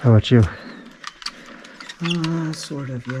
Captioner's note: heavy breathing; metal twisting